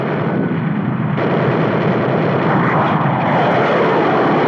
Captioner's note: guns firing